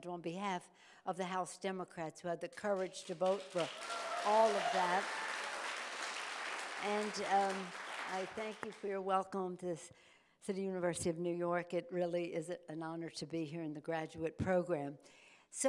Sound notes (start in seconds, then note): 4.8 audience applauding